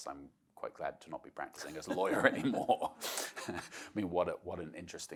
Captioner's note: laughs